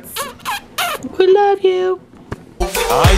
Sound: kisses

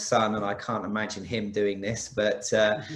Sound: laughs

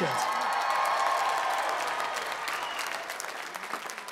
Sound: cheers and applause

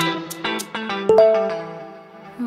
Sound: phone chimes

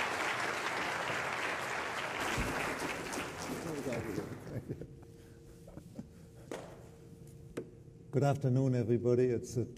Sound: applause

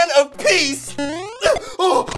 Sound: boing!

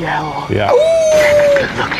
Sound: howls

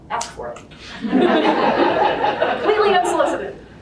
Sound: group laughter

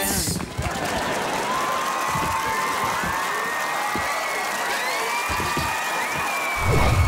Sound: cheering

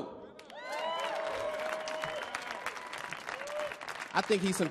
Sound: audience cheering; audience clapping

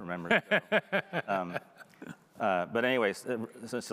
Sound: laughing

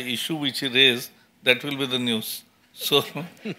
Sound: laughter

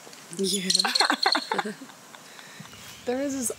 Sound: women laughing

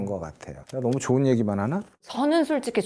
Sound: voiceover

